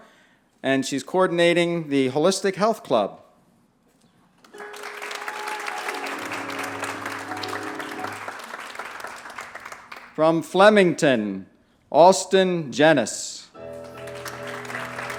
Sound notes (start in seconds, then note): 4.4 applause; 13.6 applause